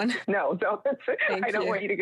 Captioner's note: laughs